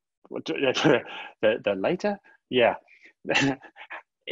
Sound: chuckles

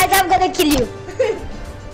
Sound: giggles

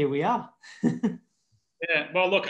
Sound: laughing

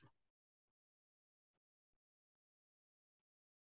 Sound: audio cuts out

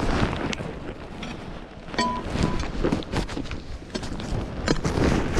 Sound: metals clunking

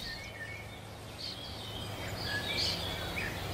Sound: birds chirping

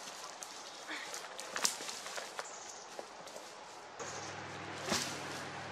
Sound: chickadees chickadeeing; wood crackling, footsteps; log falling on the ground

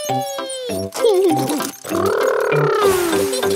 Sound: laughs

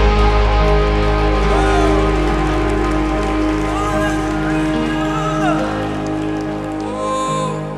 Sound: audience applause

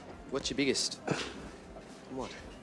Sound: snorts

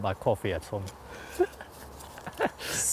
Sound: laughing

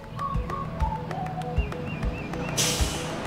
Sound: street noise

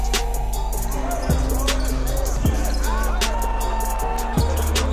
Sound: crowd cheering

